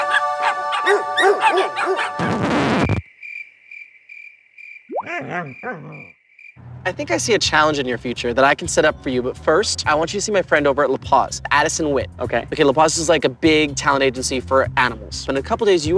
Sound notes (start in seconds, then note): 2.2 record scratch; 3.0 crickets